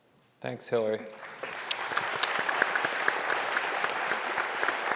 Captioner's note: audience applauding